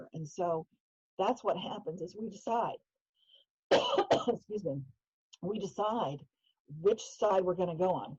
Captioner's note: coughing